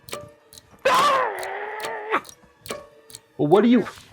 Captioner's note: Franklin screams